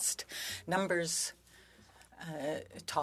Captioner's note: speaking French